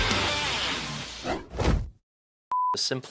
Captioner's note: graphics whooshing